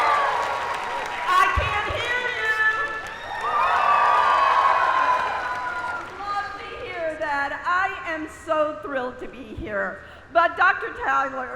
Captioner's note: applause